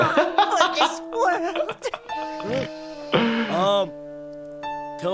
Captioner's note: laughing